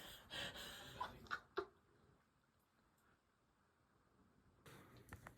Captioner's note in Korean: 웃겨 죽는중